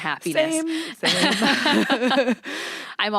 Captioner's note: laughs